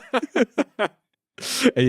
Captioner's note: all laughing